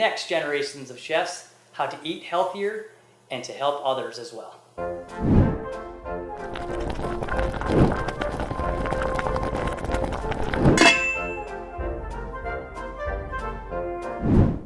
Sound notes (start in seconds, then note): 5.9 boiling and clanking pot; 10.9 upbeat music